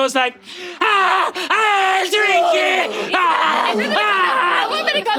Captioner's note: screaming; Murph screaming